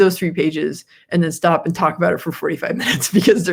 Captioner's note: laughs